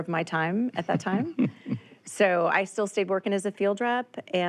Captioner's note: chuckles